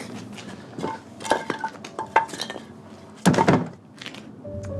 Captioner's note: wood clangs